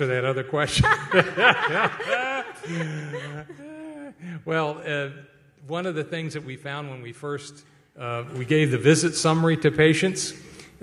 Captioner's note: laughter